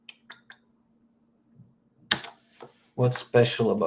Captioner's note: keyboard clicks